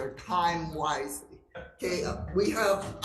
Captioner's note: people chuckle